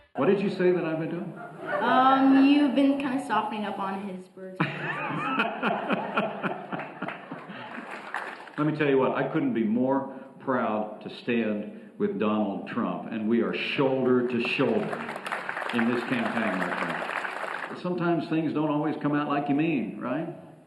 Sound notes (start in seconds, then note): 1.4 laughter; 4.6 laughter, applause